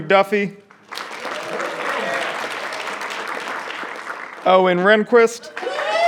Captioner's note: audience clapping; audience cheering and clapping